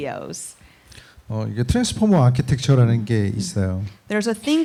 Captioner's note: speaking korean